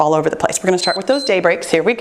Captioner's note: timer beeps